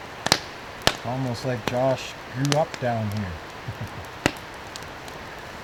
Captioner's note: laughter